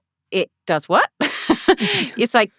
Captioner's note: laughing